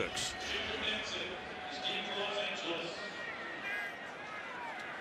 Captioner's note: announcer in the background